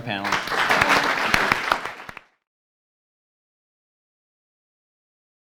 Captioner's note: audience applauds